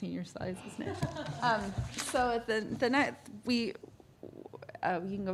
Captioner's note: laughter